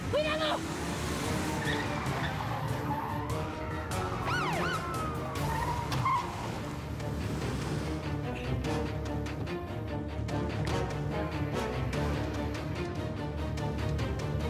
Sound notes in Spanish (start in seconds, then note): 1.5 rechinido de llantas; 4.2 sirena de policía